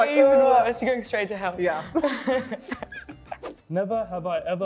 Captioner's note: laughs